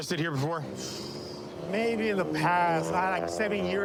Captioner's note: exhales sharply